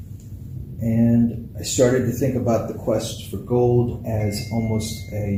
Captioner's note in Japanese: 電話が鳴る